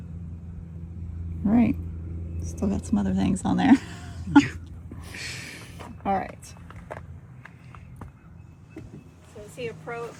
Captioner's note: laugh